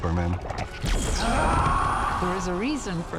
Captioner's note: screams